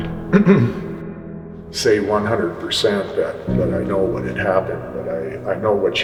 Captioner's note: clears throat